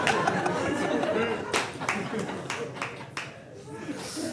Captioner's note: audience laughing